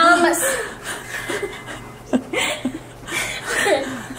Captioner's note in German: lacht